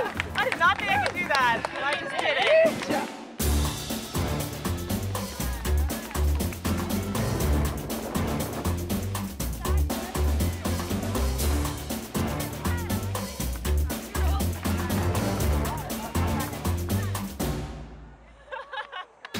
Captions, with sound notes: I did not think I could do that and I did it! (Laughs)